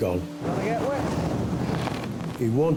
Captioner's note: waves roaring